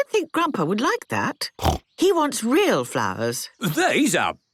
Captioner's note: snorting